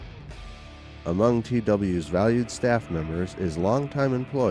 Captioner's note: voiceover